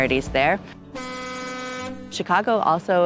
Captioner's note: boat horn